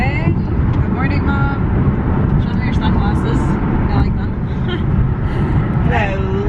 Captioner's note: laughs